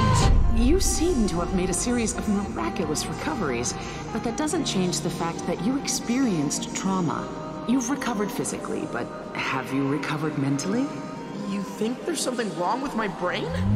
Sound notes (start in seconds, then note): 3.7 breath